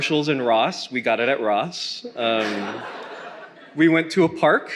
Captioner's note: attendees laughing